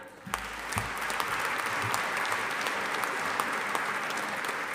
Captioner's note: audience applauding